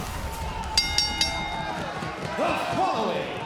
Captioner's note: bell rings